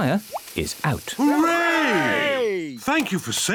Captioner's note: cheering